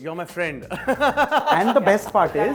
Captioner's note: laughing